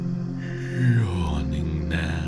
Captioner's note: yawning